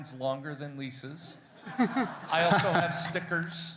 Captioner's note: everybody laughing